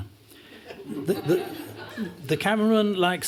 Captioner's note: laughter